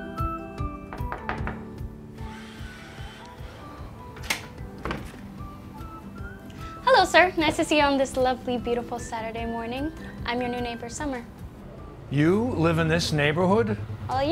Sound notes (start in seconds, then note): 0.8 door knocks